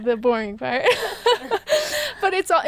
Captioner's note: laughing